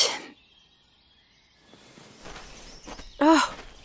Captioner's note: footsteps stop. Wolf sneaks up